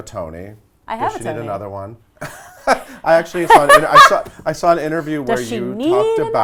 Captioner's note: laughs